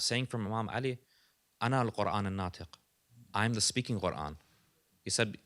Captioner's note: non-english speech